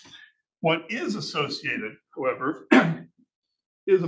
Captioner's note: clears throat